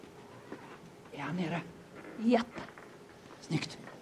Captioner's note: whispering